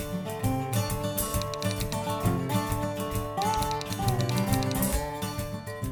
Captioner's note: typewriter sounds